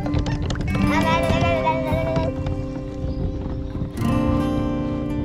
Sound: babbling; peaceful music

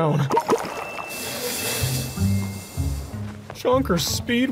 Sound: liquid splooshes

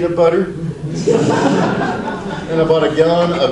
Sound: audience laughs

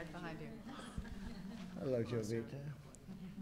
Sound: laughter

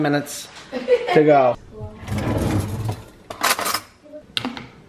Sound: laughing

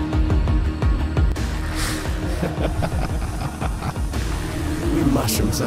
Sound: evil Laughter

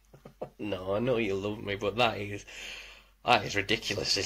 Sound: laughs

